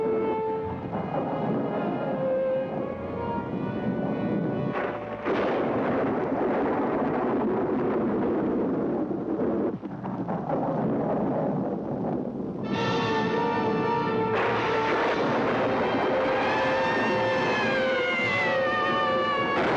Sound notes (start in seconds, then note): 1.3 thunder Rumbling; 5.3 thunderclap; 8.4 thunder Rumbling